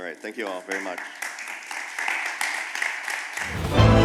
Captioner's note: applause